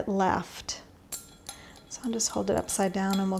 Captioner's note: glass clinking